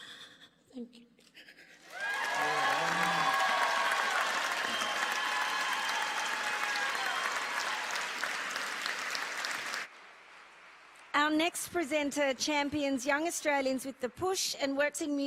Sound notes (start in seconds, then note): 4.6 applause